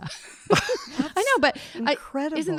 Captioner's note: panel laughing